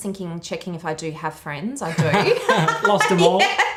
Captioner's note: laughing